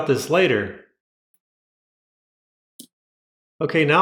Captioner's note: silence